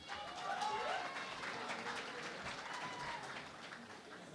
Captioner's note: cheering and Applause